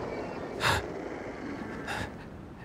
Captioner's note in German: Ängstliches Schnaufen